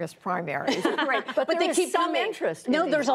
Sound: laughter

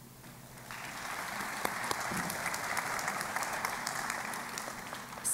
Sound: applause

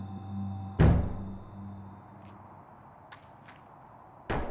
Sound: metallic thuds

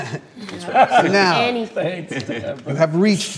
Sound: laughter

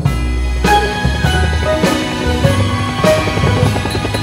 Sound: helicopter blades whirring

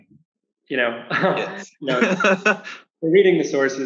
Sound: laughing

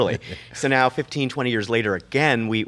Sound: laughs

